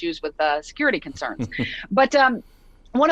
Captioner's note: chuckles